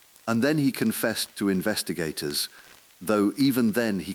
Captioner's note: exhale